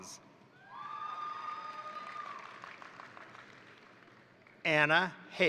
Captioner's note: crowd cheering; crowd applauding